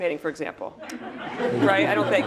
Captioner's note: laugh